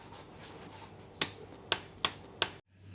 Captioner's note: lights clicking off